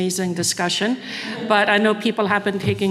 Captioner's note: audience laughing